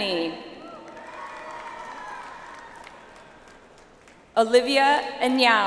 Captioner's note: audience applauds